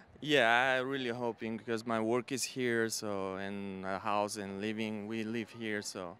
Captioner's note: none